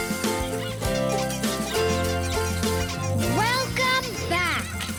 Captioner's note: squeaking; upbeat music